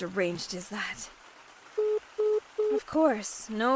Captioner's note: phone beeps